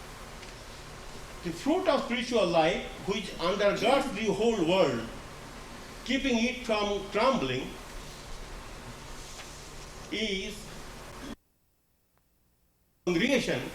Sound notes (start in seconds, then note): 11.0 gap in recording